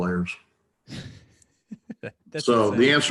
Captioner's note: laughs